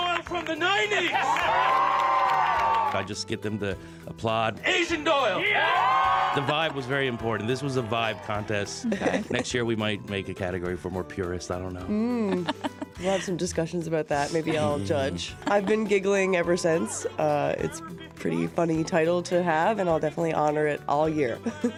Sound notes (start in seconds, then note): 3.9 cheers and Applause